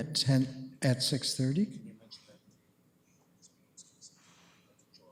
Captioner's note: comments off mic